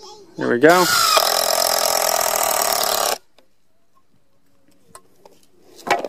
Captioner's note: fast whirling and stuttering